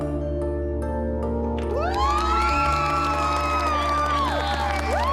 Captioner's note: applause and cheering